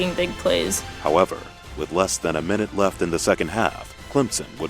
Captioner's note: voiceover